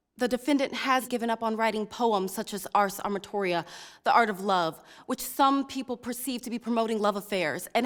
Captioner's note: none